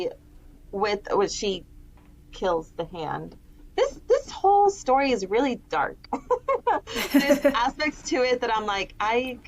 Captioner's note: laugher